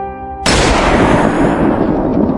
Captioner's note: sad music; gun shot SFX; sad music